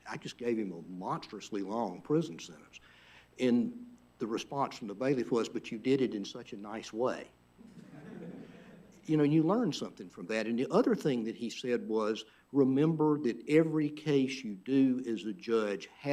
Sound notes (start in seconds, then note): 7.6 laughter